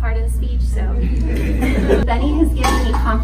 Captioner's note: audience laughs